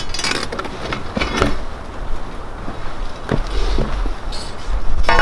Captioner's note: digging bar clanging